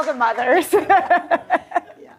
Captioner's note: laughs